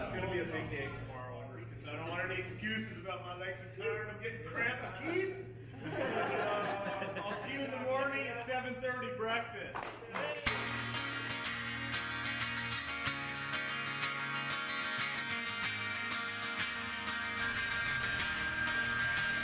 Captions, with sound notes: "it's gonna be a big tay tomorrow, so I don't want any excuses about my legs are tired and I'm getting cramps Keith!" [laughter] "I'll see you in the morning at 7:30 breakfast" [cheering and applause]